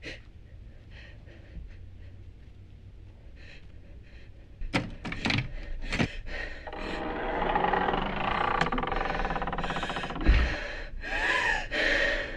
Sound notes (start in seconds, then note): 5.0 door clattering and creaking; 9.5 Marla gasping